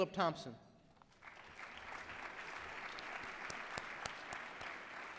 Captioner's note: applause